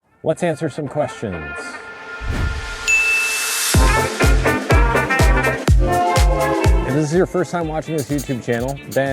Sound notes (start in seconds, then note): 2.9 ding; 3.9 upbeat music